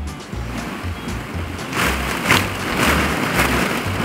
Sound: balls shuffle

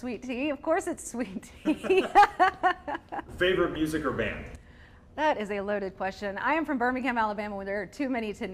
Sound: laughter

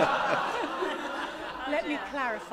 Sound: laughter

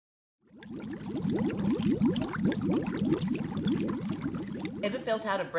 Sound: sound of bubbles popping

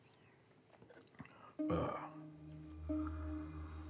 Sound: clears throat; gentle ominous music

